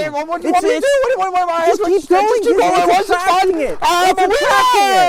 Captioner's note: stuttering